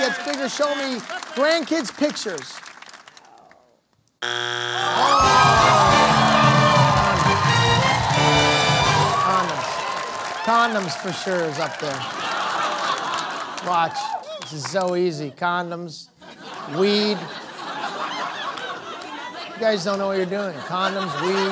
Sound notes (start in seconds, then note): 5.8 buzzer sounds; 7.0 audience groans; 9.0 cheering; 13.6 laughter